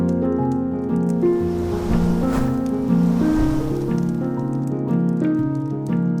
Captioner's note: podcast piano theme & fire crackling; air whooshing x3; podcast piano theme & fire crackling